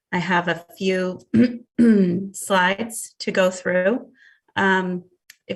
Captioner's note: clears throat